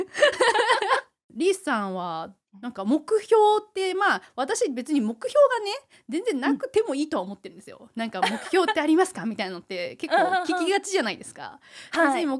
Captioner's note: laughs